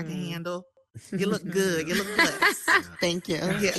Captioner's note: panelists laughing